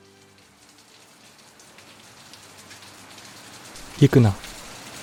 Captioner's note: rain dripping